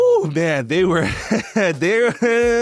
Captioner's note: laughing